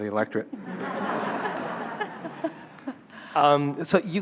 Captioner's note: laughing